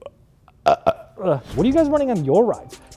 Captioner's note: burps